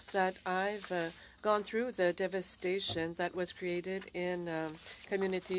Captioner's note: speaking French